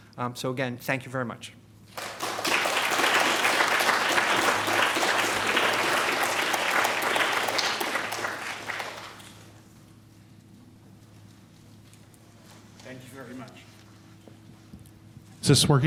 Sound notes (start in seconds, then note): 1.9 applause